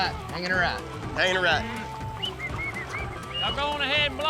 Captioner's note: whistling